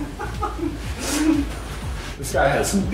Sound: muffled laughing

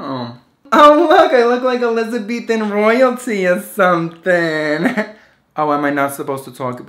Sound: laughs

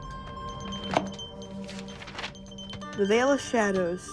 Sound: suspenseful instrumental music; pages turning

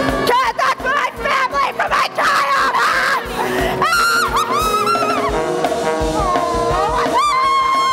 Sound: laughs maniacally

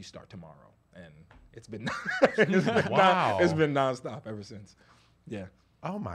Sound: laughs

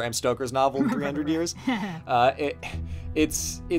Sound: laughs

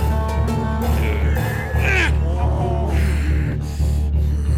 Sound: גליאס נאנח

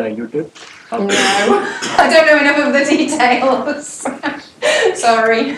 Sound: laugh

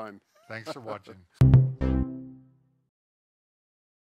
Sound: laughs

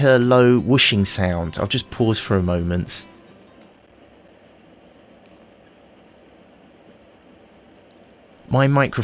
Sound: fan noise

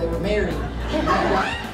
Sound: laughter

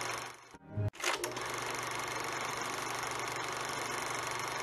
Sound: film projector continues rolling

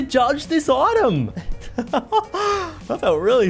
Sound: laughs

